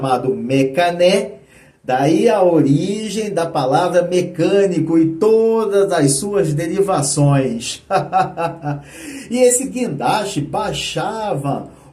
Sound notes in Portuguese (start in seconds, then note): 7.8 risadas